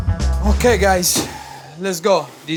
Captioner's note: upbeat music; container thudding